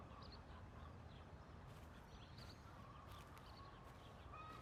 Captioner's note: birds chirping